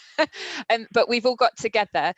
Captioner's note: laughs